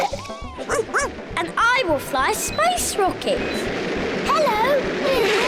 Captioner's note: all laugh; barks; all laugh